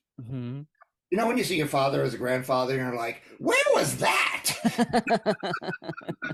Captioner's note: laugh